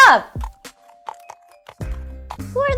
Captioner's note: hoof steps